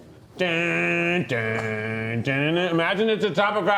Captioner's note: humming